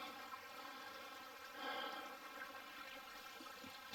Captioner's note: burbling water